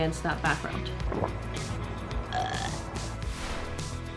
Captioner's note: gulps, burps